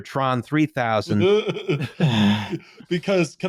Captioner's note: laughter